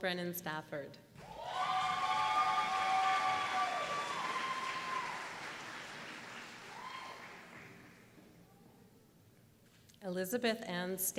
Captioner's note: applause